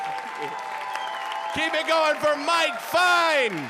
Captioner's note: audience applauding